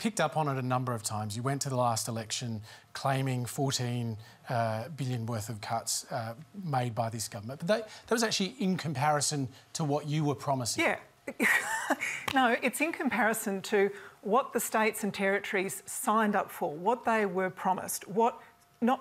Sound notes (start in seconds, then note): 12.1 laughs